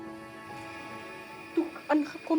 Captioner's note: oxygen blowing